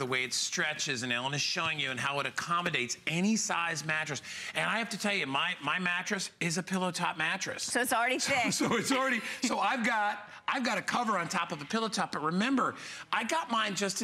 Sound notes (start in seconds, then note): 8.2 laughter; 11.3 laughter